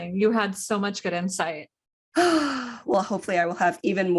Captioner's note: sigh